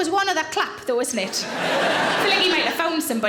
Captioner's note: audience laughing